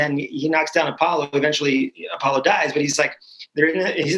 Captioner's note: laughter